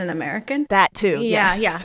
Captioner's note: laughter